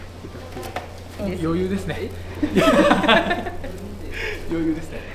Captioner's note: laugh